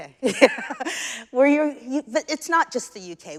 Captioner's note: chuckles